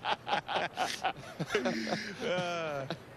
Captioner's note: laughter